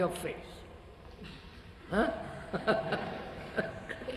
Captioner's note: laughs